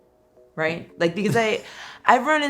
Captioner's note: laughs